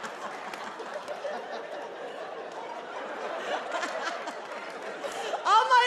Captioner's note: everyone laughing